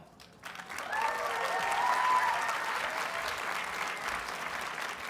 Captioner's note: audience cheers and applauds